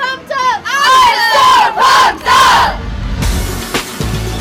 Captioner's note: cheering